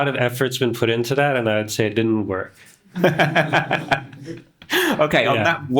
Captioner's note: laughing